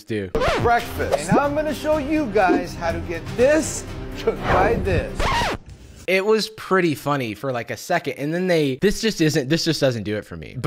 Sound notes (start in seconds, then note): 4.4 record scratch